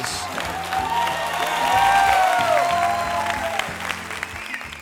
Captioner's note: audience cheering